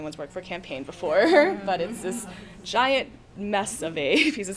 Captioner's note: chuckles